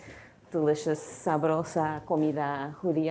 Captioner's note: spanish